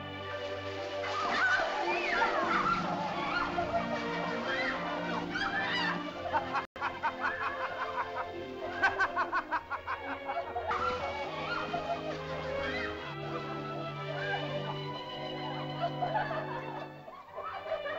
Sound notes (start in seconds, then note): 0.1 leaves rustle; 1.0 excited chatter; 6.2 euphoric laughter; 6.2 sentimental music; 10.6 leaves rustle; 10.6 excited laughter; 10.6 sentimental music; 15.7 excited laughter; 15.7 sentimental music